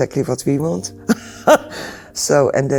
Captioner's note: laughs